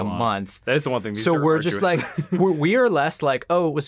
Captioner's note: chuckles